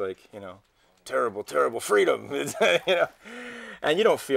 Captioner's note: chuckles